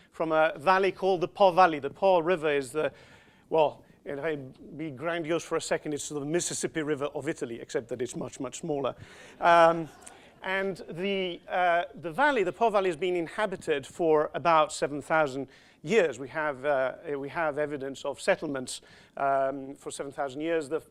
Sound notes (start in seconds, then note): 9.4 crowd laughing